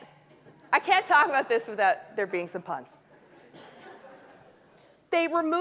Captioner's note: audience laughing